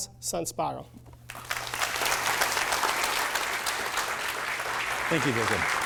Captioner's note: applause